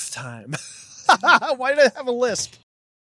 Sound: laughing

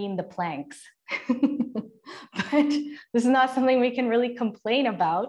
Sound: laughter

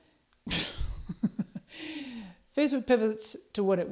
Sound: chuckles

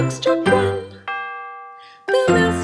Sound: bell dings

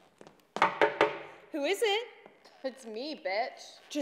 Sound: knocking

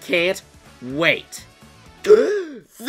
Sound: gasp

